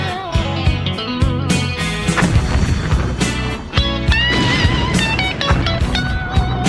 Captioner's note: blues rock music; explosions blasting